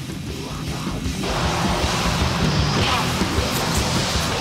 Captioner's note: tires screeching